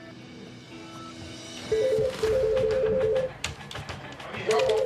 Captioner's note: telephone rings